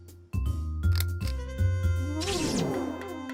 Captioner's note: click